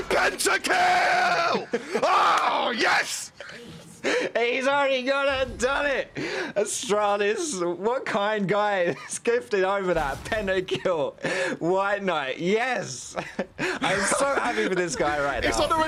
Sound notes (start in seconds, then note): 3.6 laughing